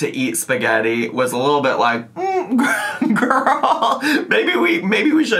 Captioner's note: laughing